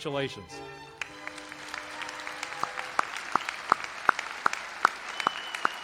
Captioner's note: audience applauding